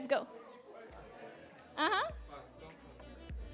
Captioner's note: chatter